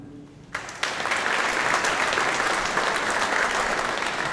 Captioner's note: audience applauding